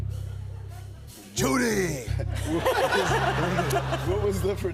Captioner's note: laughter